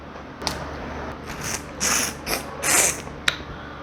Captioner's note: crack!; slurp-Slurrp Slurrp